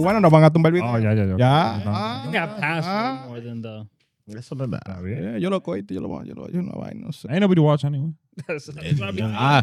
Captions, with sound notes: (Speaking In Foreign Language) Ain't nobody watch anyone?